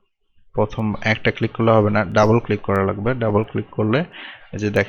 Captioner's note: left click